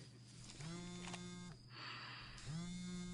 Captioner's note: phone vibrates